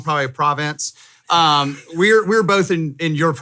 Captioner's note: laughing